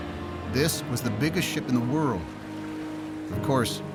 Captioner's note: voiceover